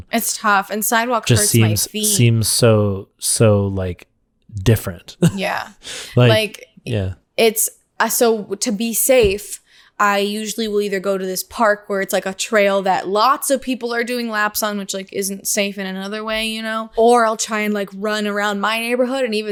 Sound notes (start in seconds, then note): 4.8 laughs